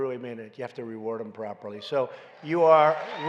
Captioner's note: applause